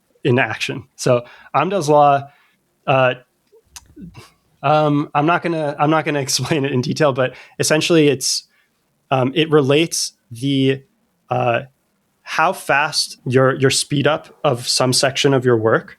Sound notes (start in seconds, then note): 3.6 uh; 11.1 uh